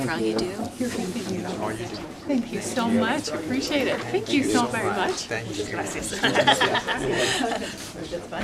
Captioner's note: laughter